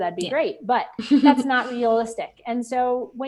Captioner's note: laughing